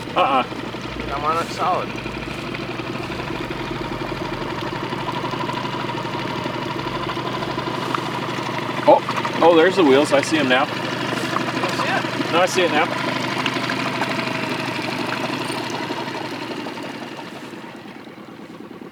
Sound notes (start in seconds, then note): 2.7 boat motor humming; 2.7 water sloshing; 13.7 boat motor humming; 13.7 water sloshing